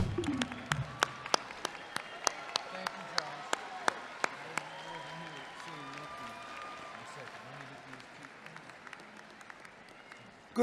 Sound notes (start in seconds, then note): 0.8 audience clapping; 6.3 claps